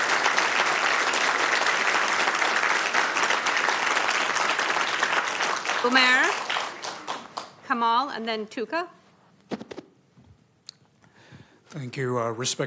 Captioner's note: applause